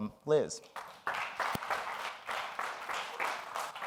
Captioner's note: applause